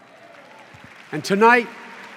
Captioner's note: applause